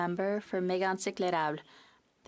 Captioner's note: speaking French